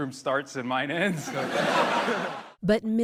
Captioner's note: laughter